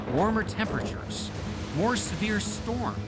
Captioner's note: thunder rumbles